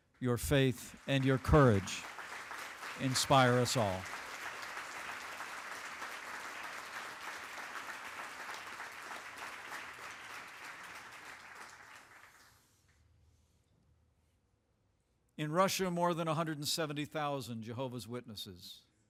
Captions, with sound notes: Your faith and your courage inspire us all. (Applause) In Russia, more than 170,000 Jehovah's Witnesses